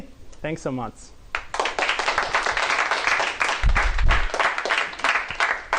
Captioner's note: applause